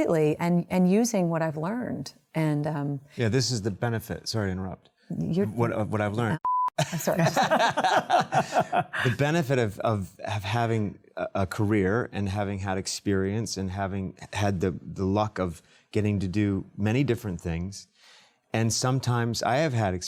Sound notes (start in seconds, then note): 9.3 laughter